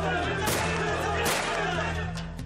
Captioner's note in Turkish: Kurşun sesleri